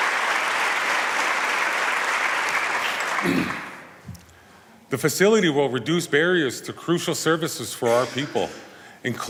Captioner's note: applause